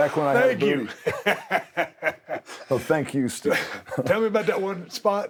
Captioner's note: laugh